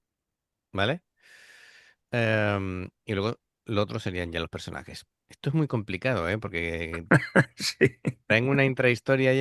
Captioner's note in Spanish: risas